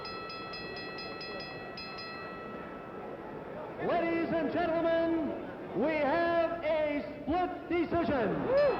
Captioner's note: bell